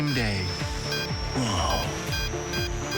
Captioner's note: accelerated beeping